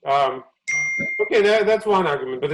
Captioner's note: ding sound